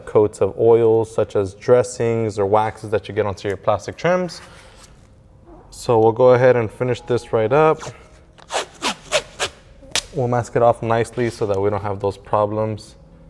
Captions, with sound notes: costs of oils such as dressings or waxes that you get onto your plastic trims. So we'll go ahead and finish this right up. (tape ripping) We'll mask it off nicely so that we don't have those problems